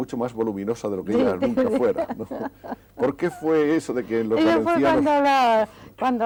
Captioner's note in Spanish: risas